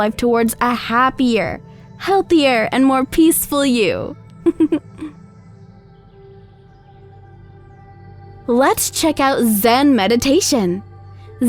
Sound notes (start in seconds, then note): 4.4 laughs; 6.4 birds chirping